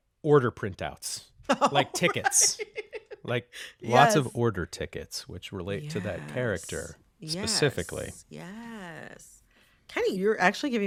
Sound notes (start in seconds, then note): 1.5 laughter